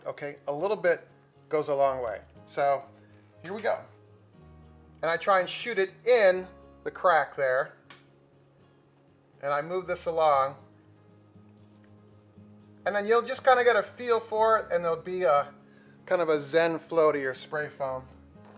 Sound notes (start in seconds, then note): none